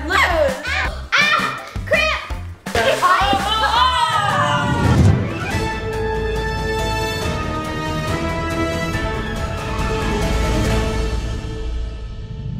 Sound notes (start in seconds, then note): 2.8 everyone exclaims; 4.3 upbeat intro music